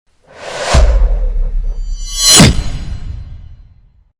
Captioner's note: wind wooshing